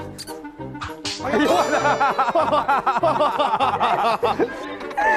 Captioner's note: hahaha